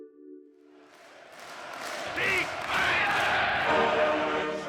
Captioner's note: Nazis chanting